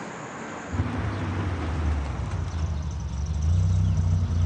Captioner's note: car engine whirs